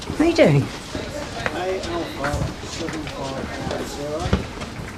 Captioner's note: people chattering